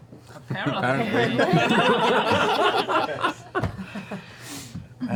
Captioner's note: laughter